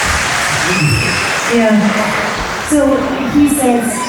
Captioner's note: applause